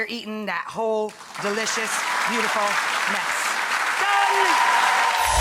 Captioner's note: audience applauding